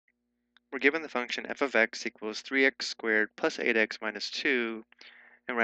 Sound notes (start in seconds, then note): 0.9 voiceover